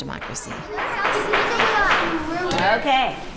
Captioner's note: gavel banging